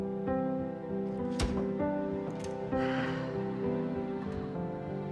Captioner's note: sighing